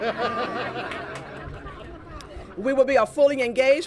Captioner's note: laughter